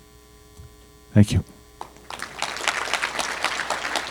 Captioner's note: applause